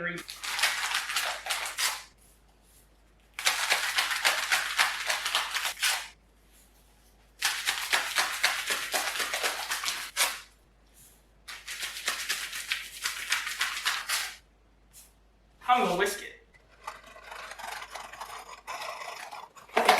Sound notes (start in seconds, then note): 0.2 hot chocolate packets shaking and ripping